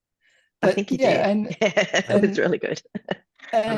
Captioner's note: laughs